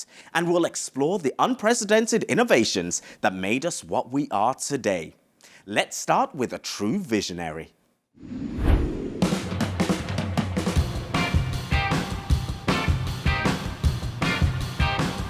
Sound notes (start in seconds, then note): 8.2 graphics whoosh; 9.3 upbeat music